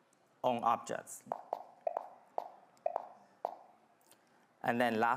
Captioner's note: objects popping